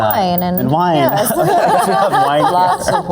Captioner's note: all laugh